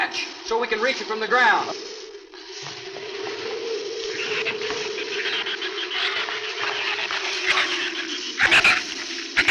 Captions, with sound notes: so we can reach it from the ground. (shrews chatter)